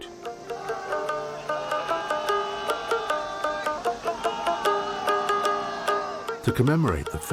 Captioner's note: group shouting; twangy music